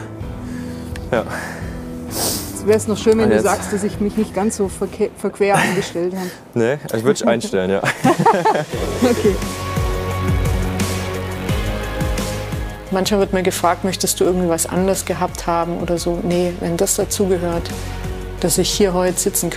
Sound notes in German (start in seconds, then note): 8.9 lachend